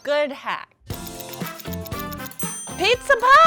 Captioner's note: upbeat music; clock ticking